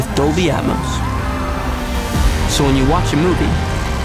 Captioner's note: engines revving; shouting